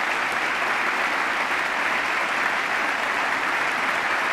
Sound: applause

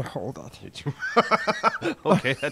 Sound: laughing

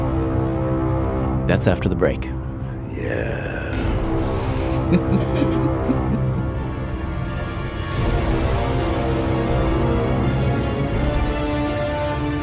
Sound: laughs

